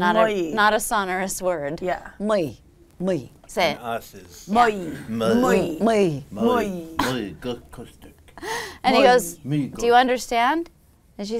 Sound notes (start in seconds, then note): 0.3 foreign language; 4.3 all speaking foreign language